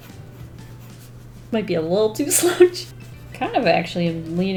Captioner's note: laughs